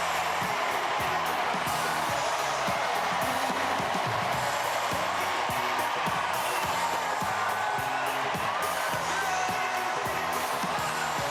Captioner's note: cheers and applause